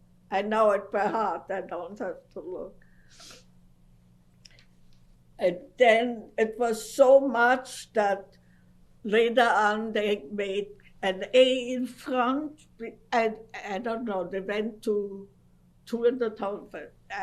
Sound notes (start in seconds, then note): 2.9 pauses for 3 seconds